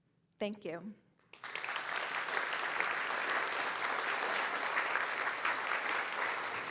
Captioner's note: applause